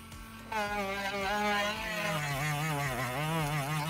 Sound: sander whirs

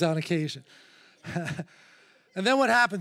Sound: chuckles

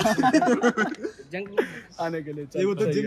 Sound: laughter

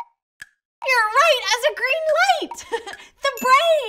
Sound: chuckles

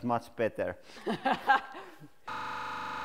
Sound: laughs

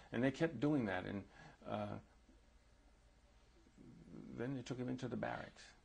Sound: pauses for 3 seconds

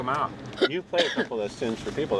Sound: coughs

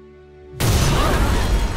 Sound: explosion

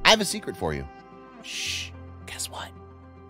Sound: shhhhh

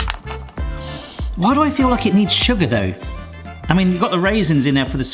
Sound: sniffs

